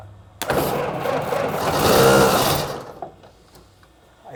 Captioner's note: engine roars